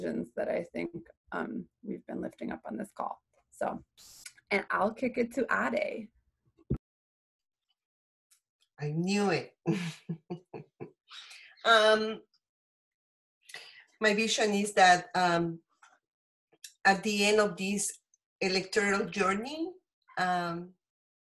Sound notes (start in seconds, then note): 9.6 chuckles